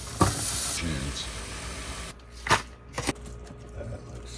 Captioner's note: vegetables sizzling